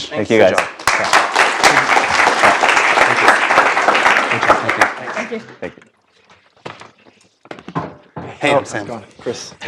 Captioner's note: applause